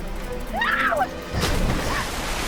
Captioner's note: screams